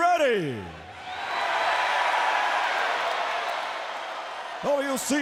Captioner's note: audience cheers